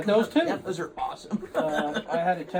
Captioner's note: laughs